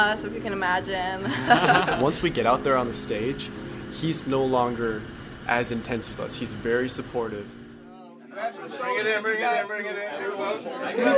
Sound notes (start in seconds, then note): 1.3 laughs